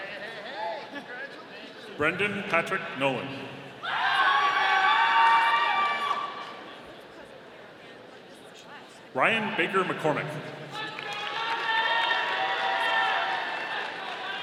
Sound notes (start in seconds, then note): 3.8 audience cheering; 10.8 audience applauding